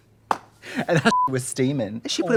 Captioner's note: beep